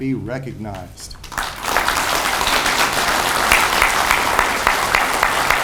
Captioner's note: audience applauds